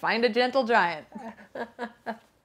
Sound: all laughing

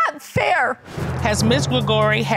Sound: sobbing

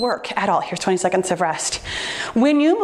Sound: timer beeps

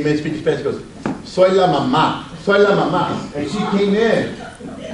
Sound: speaks Spanish

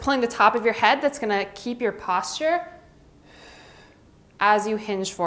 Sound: exhales

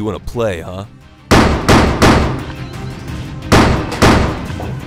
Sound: gunshots

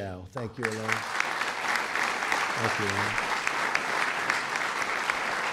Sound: applause

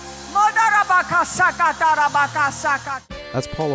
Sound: speaking in tongues

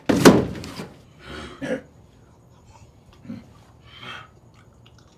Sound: grunting sounds

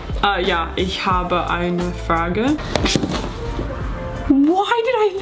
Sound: speaking in foreign language

